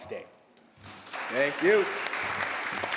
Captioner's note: applause